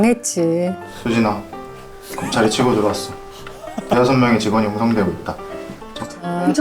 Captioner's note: crew reciting passionately